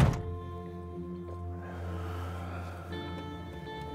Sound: sighing

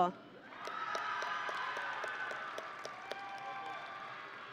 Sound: audience and graduates cheering

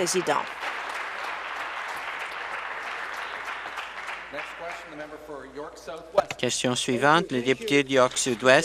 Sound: applause

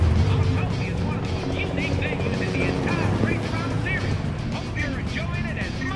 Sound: helicopter noise

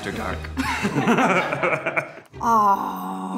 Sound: group laughs

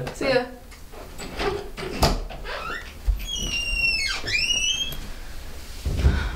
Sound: door squeaks open, and closes softly; Fred sighs

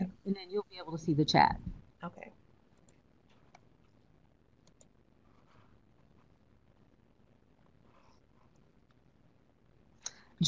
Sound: brief silence

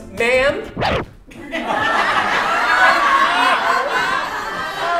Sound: audience laughing

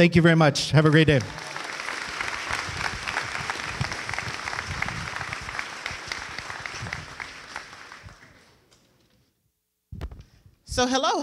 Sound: applause

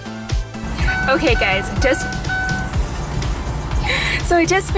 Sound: beeping

